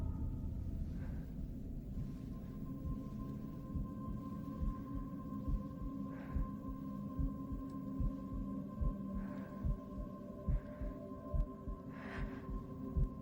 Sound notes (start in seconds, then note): 0.2 eerie music continues; 4.6 heart beat pulsates; 8.9 Louise continues breathing hard